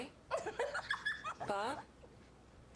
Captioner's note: giggling